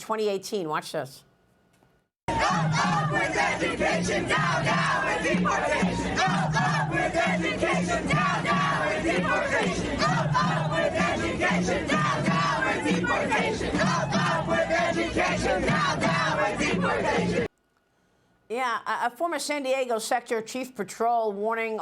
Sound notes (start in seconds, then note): 11.4 chanting